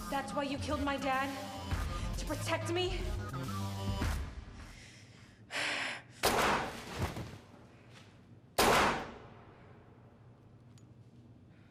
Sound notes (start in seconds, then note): 6.3 gunshot firing